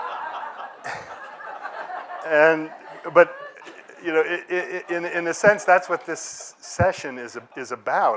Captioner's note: laughter